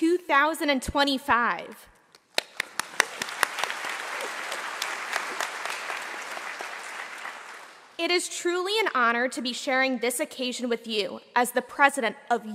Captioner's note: applause